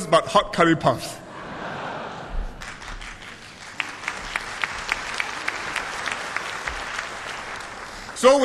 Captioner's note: laughter and applause